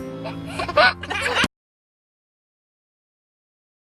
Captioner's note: laughs